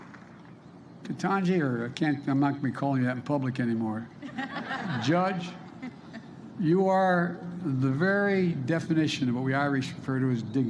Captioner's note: applause